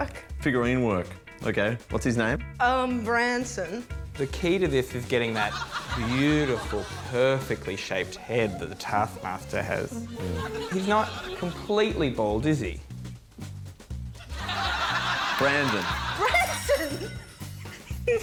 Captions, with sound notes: Figurine work. OK. What's his name? Um, Branson. The key to this is getting that beautiful, perfectly-shaped head that the Taskmaster has. He's not completely bald, is he? (LAUGHTER) Brandon. Branson!